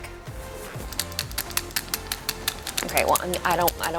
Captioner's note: ice pick clattering